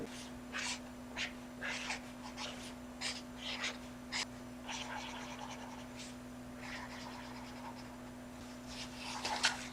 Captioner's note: writing with marker on paper